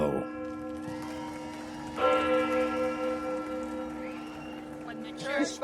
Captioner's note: bell tolls; audience cheers